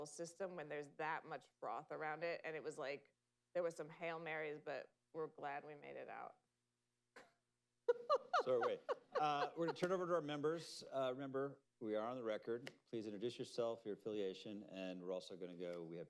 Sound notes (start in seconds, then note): 7.9 laughs